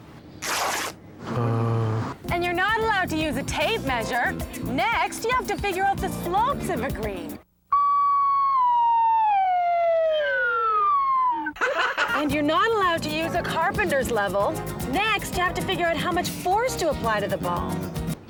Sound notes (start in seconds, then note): 7.4 balloon deflating slowly; 11.4 chuckling